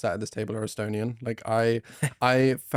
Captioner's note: laughs